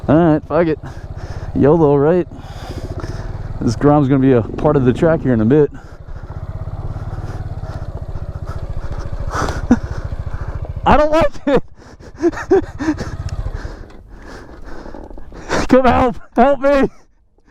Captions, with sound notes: Alright, fuck it. YOLO right? This Grom's gonna be part of the track here in a little bit. I don't like it. (laughs nervously) Come help, help me.